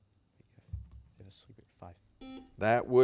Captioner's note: buzzer beeping